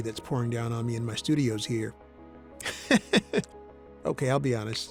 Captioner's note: laughs